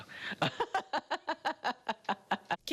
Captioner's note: laughs